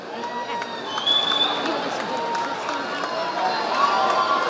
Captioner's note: audience applauding